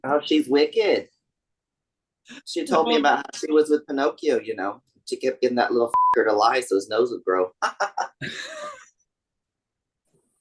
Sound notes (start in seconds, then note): 5.9 beep; 7.6 laughs